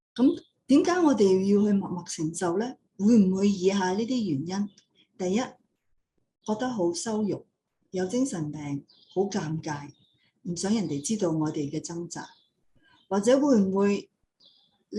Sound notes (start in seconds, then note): 0.7 non-english speech